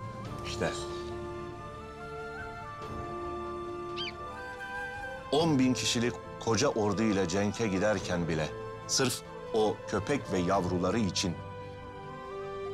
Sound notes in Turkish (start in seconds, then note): 3.8 Atmaca sesi